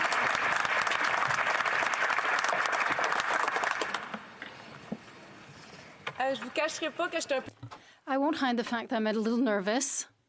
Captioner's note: applause